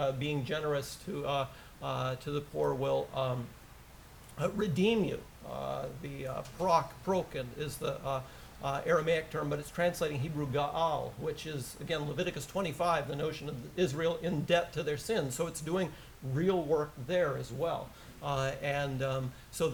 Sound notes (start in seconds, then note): 6.4 aramaic; 10.8 hebrew